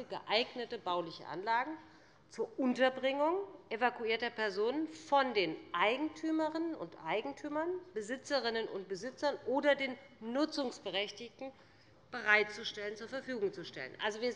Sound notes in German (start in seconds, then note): none